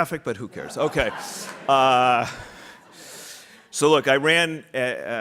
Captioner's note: audience laughing